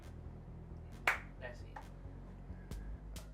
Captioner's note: claps